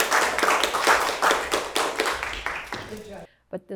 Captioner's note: attendees applauding